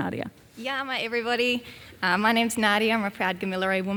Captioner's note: speaks Gamilaroi